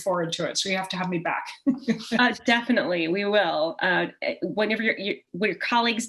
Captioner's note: chuckle